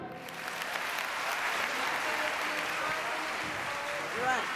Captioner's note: audience applauding